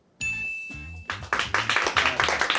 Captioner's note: bell chimes; crew applauds